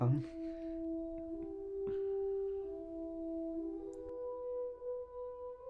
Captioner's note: chuckles